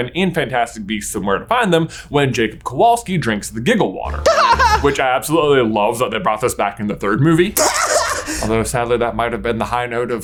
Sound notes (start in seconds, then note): 4.0 laughs; 7.6 laughs